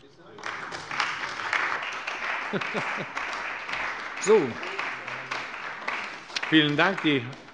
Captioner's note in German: Beifall bei der CDU und dem BÜNDNIS 90/DIE GRÜNEN